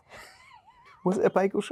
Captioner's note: Yerin laughing